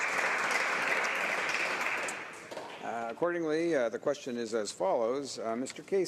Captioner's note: applause